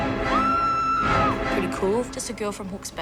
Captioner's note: screaming